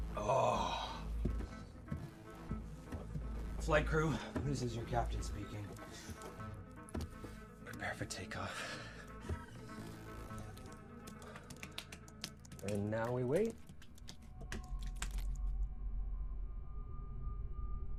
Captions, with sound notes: (Patrick groans) - Flight crew, this is your captain speaking. Prepare for takeoff. (Patrick drums on chest) - And now we wait. (anxious music)